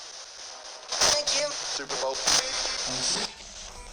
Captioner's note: spirit box voice